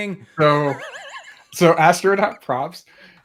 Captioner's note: laughter